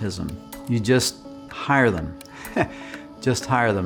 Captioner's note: chuckles